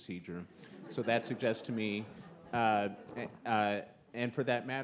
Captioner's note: audience laughs